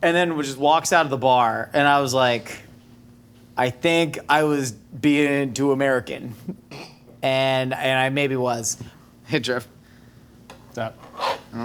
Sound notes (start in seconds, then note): 6.5 stifles laughter